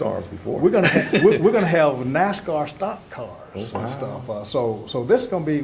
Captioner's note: laugh